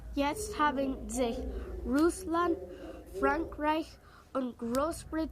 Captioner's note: speaks in foreign language